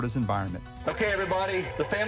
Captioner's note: screams and cheers